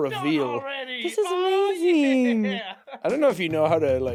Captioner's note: chuckles